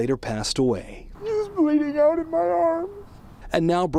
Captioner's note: crying